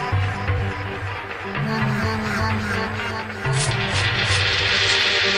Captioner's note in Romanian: Aplauze